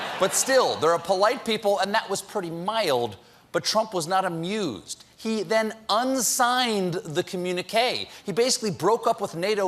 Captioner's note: laughter